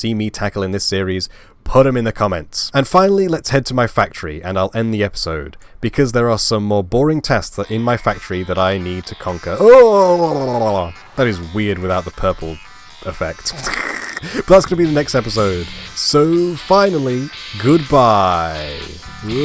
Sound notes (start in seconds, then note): 13.4 laugh